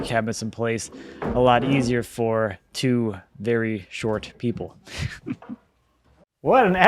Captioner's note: chuckles